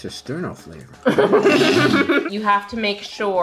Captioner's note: cracking up